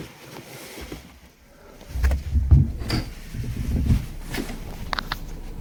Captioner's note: handle clicks